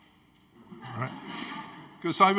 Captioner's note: audience laughing